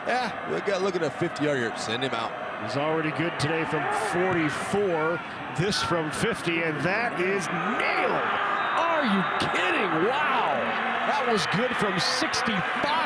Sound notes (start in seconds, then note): 8.4 referee blows whistle; 11.0 fans cheer